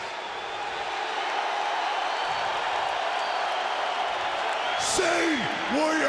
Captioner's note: audience cheering